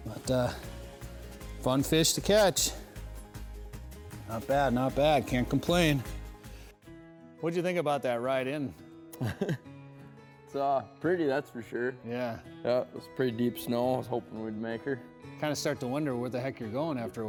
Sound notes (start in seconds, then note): 9.2 laughs